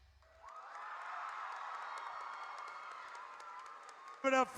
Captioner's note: audience cheers